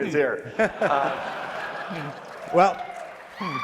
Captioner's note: audience laughing